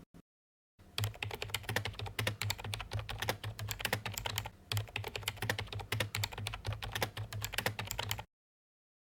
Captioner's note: typing